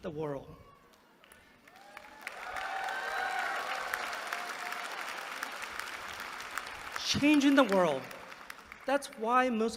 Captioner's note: applause